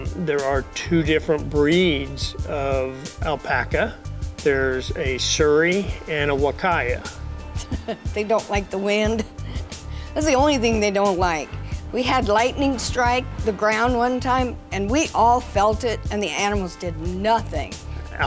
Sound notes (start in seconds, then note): 7.5 laughs